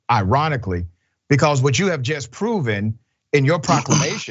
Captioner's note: laugh